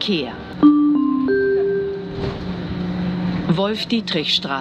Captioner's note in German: Gong